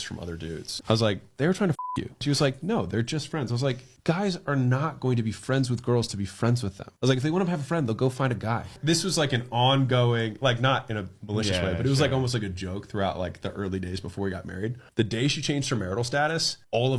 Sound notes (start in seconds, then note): 1.8 beep